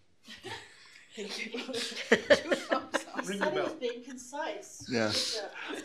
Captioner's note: laughter